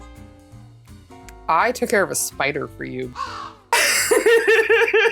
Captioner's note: caw